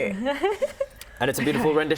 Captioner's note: laughs